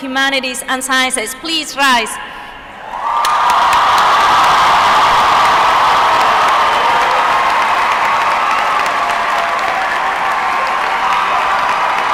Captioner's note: applause